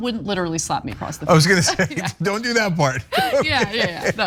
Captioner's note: laugh